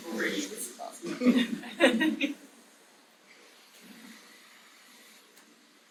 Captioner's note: audience laughing